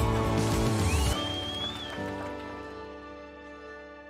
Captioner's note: crowd cheering